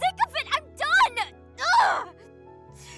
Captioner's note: frustrated scream